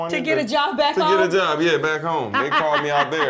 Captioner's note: laughter